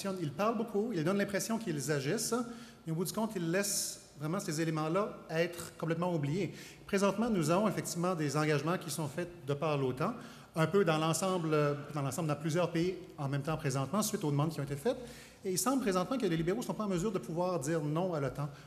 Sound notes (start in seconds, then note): none